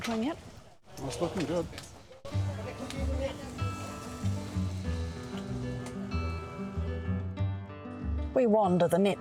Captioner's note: bacon sizzling